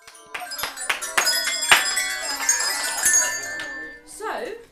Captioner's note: bell sounds